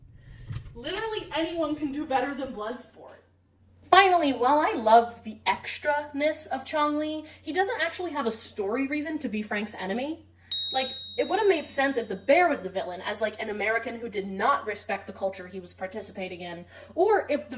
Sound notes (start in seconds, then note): 10.5 ding